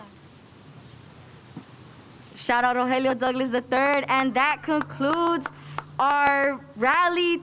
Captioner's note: cheers and applause